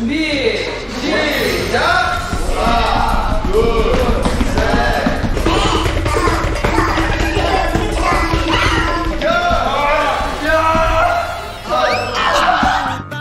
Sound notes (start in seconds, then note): 5.5 stumbling